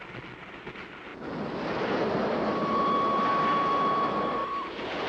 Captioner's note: whistle blows